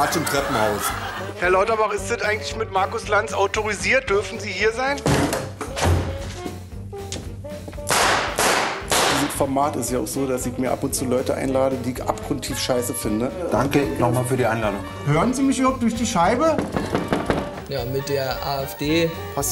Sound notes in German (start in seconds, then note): 5.0 Tür knallt auf; 8.0 Pistolenschüsse